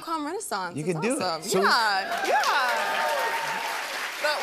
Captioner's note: cheers and applause